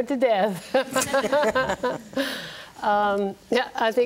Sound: group laughing

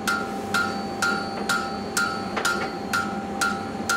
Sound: metal tapping

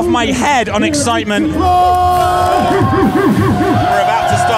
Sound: yelling; cheering

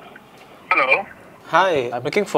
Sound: phone call

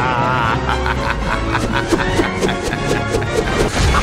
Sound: Kumbhakarna laughing

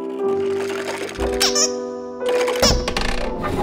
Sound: honk

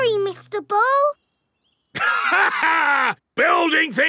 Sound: laughs

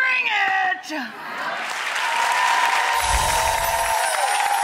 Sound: audience cheering

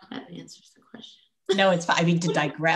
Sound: laughs

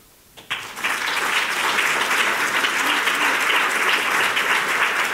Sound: audience applauding

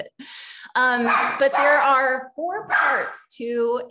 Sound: puppy barking

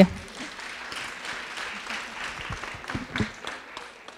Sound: audience clapping

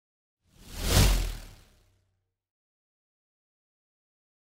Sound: air whooshes

